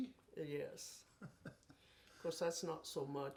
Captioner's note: chuckles